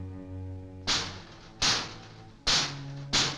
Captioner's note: banging